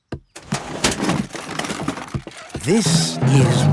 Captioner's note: clattering